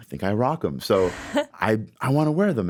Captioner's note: chuckles